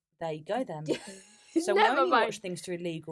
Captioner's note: laughs